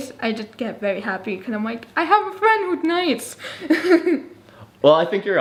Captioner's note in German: lacht